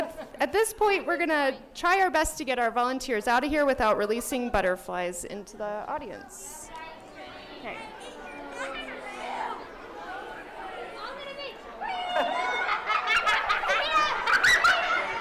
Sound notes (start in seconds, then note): 6.3 chattering; 11.9 laughter